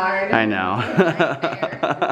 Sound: laughs

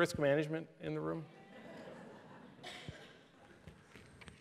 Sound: laughter

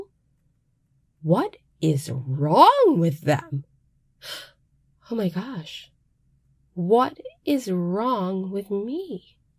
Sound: gasp

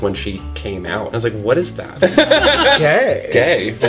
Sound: laughter

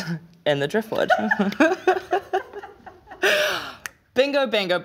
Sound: laughs

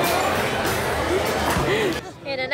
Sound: gasp

